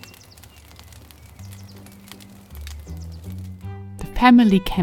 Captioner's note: fire crackling